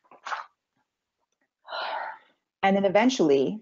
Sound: sighs

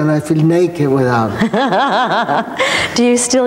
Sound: laughing

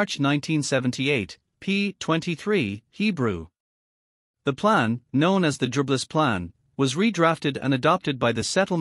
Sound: Hebrew

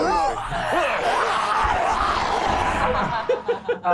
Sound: gasping; hissing; laughing

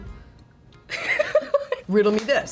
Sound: laughs

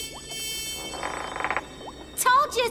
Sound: creak

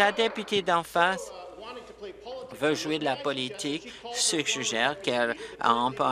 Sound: applause

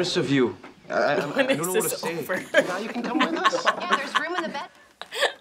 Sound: laughing; spitting

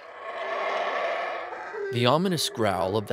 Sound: monkey howling

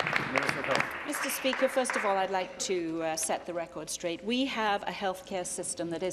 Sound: applause

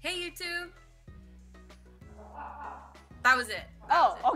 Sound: laughs

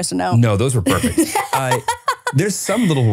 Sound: laughs

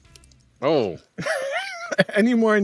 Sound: laughs

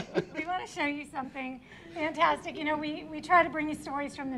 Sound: laughter

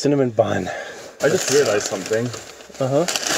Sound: paper crackling

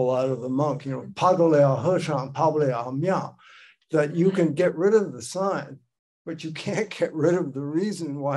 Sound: speaking Chinese

